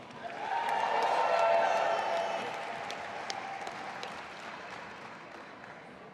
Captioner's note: audience applauding and cheering